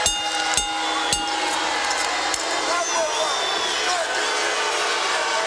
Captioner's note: bell ringing; crowd chatter